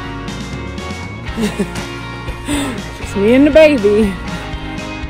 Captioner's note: laughing; happy music continues